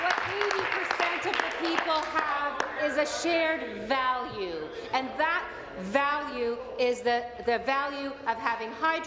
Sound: applause

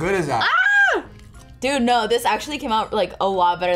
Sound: screams

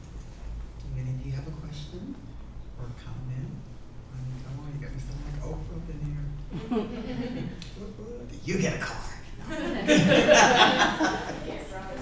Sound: laughter

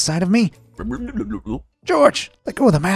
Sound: George mumbling

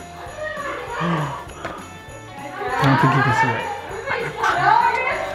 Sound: gasps

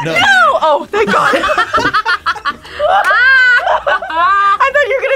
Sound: group laughs

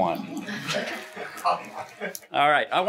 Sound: laughing

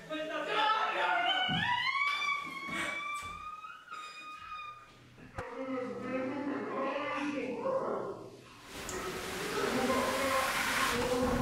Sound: dad, distorted voices

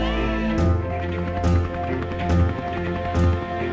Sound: crowd shouting; helicopter blades whirring; suspenseful music

